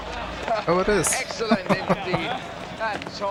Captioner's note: laughing